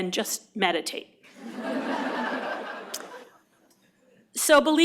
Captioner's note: laughter